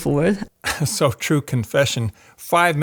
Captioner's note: chuckles